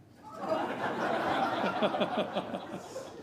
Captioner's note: laughter